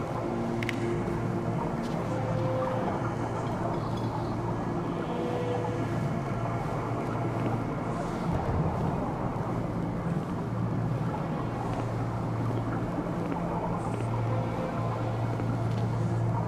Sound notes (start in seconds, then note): 1.0 clack; 6.7 footsteps